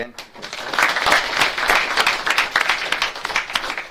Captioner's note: audience claps